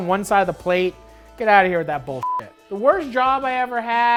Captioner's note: beep